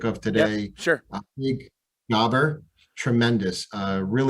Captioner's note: call briefly cuts out